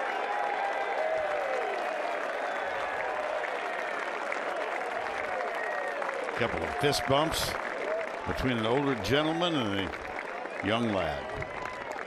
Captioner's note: cheers and applause